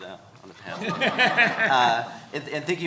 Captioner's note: everyone laughing